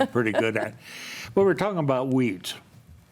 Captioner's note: chuckles